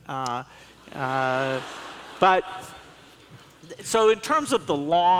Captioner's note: laughs